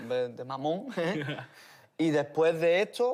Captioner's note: laugh